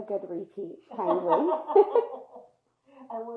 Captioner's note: laughing